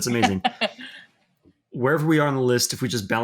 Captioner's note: chuckling